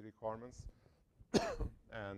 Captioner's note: cough